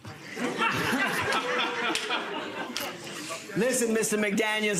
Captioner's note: audience laughter